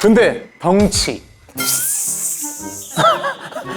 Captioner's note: haha